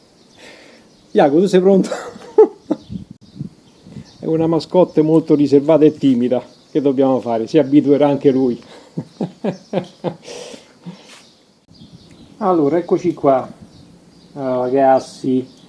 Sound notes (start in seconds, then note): 8.6 laughs